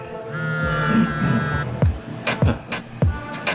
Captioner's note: phone buzzes